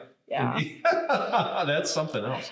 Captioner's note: laughs